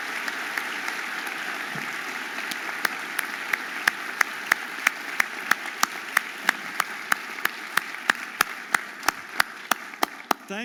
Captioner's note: audience applauding and cheering